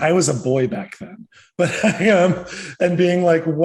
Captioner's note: laughs